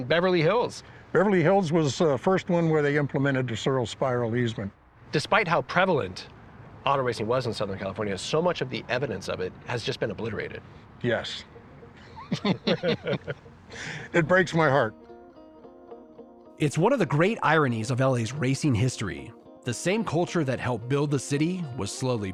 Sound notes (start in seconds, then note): 10.1 both laugh